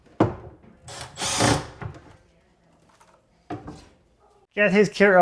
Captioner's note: tool whirring